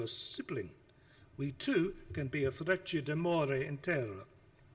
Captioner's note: speaks foreign language